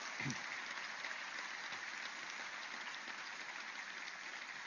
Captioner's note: applause